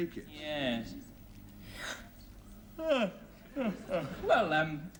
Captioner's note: yawns